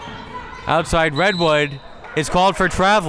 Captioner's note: whistle tweeting